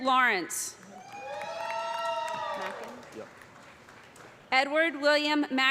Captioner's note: cheers and applause